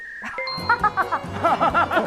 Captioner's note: Mandarin; hahaha; Cantonese